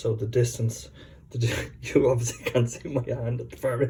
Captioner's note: chuckles